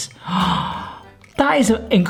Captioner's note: gasping